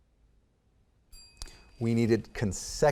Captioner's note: bell ringing